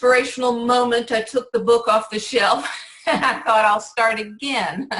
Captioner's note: laughs